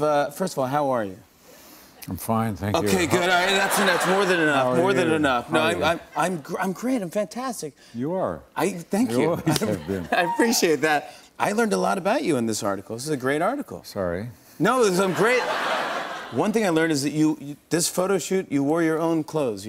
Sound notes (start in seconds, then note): 2.9 laughter